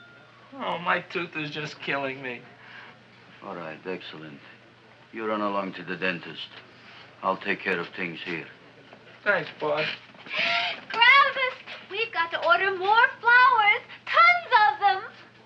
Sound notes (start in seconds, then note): 11.0 gasps